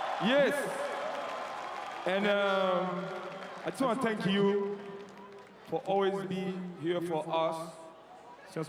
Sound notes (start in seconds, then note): 2.1 cheering and Applause